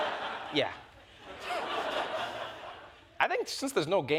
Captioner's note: laughter